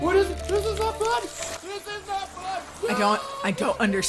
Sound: screaming

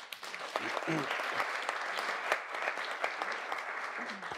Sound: audience applauds

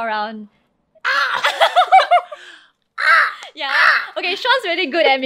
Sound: mimicking a crow's caw

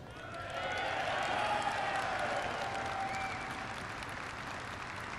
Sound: applause

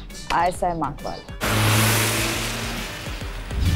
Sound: van speeding

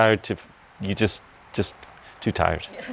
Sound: dancers laughing

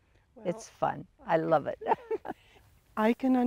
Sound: giggles

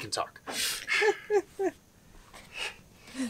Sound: laughs

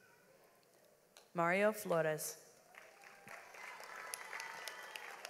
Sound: audience applauds

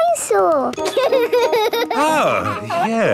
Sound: giggles

